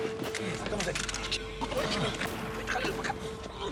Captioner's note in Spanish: quejidos del tlacoache